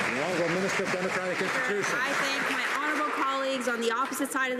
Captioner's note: some Applause